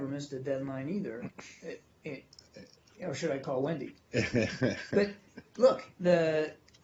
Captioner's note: laughter